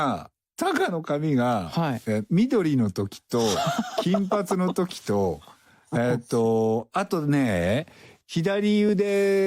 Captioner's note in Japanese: 爆笑; break into a laugh